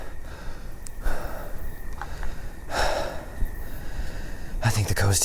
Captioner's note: Pete loudly breathing; crickets chirping